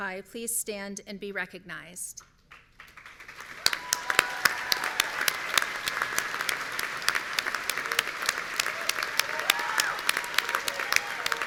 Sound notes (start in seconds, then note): 3.4 audience cheering